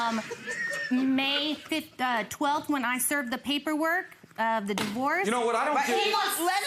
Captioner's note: audience laughs